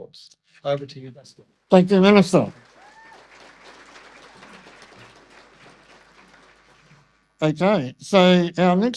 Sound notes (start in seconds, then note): 2.0 audience applause